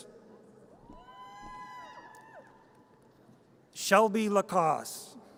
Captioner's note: audience cheers